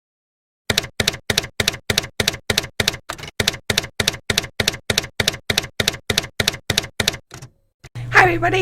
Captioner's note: typewriter keys clacking